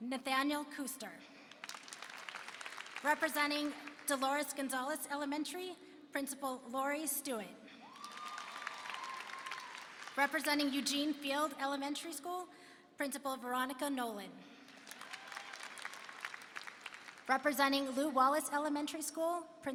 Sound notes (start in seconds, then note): 1.4 applause; 7.8 applause and cheering; 14.6 applause and cheering